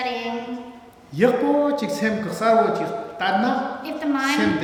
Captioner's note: speaking tibetan